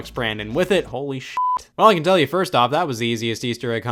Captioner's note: beep